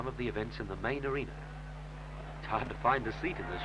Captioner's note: crowd noise